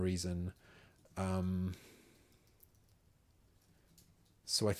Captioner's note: silence